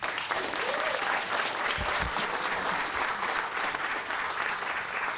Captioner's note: applause